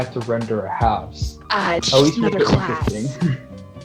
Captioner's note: mic popping, sarcastic